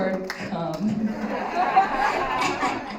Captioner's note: laughter